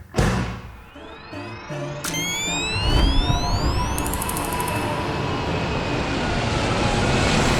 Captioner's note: airplane roaring; electronic whirring